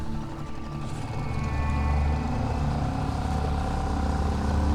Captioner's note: boat engine revs